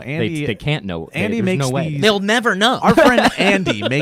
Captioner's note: laughs